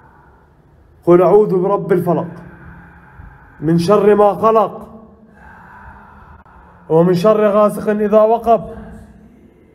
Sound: reciting

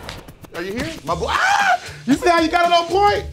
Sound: elastic snaps; screams

